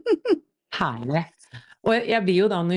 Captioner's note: laughter